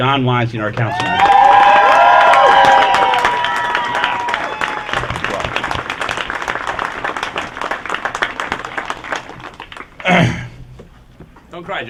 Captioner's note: cheering, applause